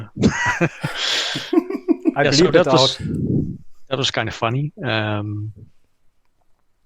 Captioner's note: laughter